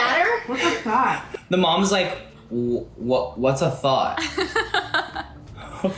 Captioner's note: laughs